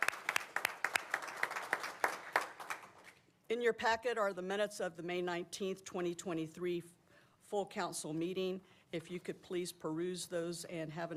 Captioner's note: applause